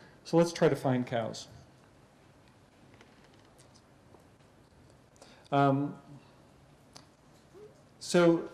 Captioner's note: pause